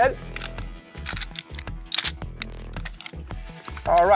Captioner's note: gun cocking